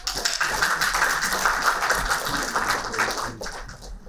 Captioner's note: applauding